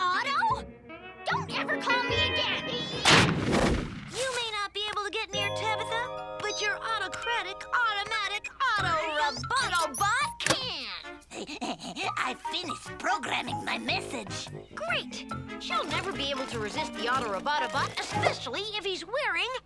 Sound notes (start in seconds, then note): 3.0 logo whooshes; 11.2 Otto giggles